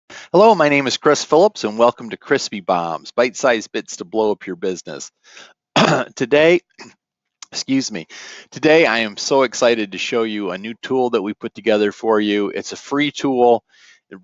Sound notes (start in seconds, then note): 5.7 clears throat; 5.7 coughs